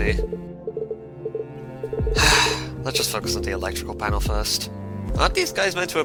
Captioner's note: sigh